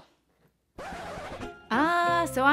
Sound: scratching

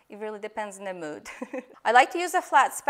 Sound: giggles

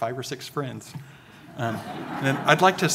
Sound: audience laughing

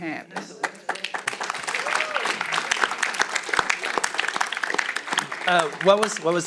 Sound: audience applauds and cheers

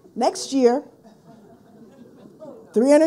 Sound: people laughing

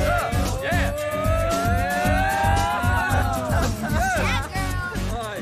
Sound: yelling in excitement

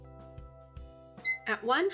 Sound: alarm beeps

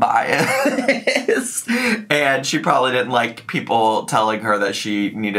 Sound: laughing

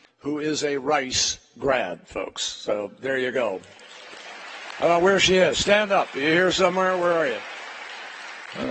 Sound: applause

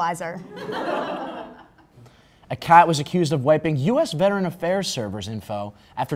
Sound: crowd Laugh

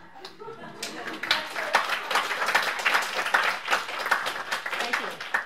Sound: laughter and applause

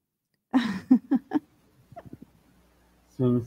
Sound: laughter

